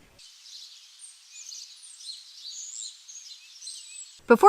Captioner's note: birds chirping